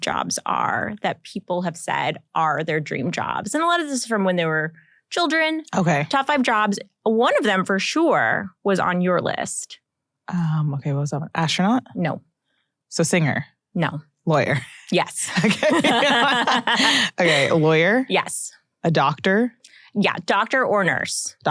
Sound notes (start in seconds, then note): 15.3 laughs